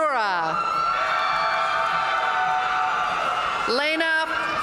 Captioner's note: audience cheering and applauding